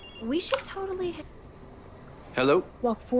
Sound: phone ringing

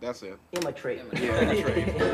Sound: laughs

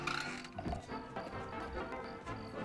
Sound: <i> groans</i>

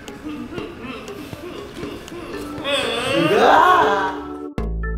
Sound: laughter from behind the camera

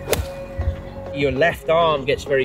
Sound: golf club whacks

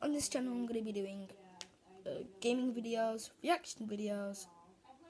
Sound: click

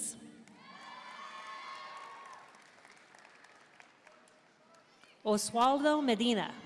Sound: audience cheering and applauding

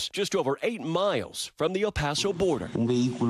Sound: speaking non-english

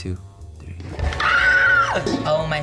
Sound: Bretman screams

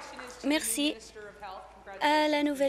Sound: applause

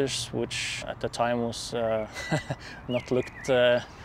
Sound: laughs

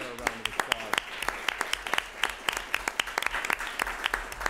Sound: applause

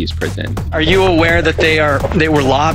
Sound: voiceover

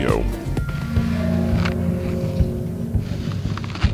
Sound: slow mo crunching

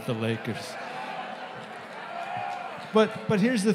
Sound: audience murmuring

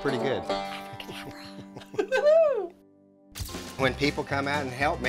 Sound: giggling

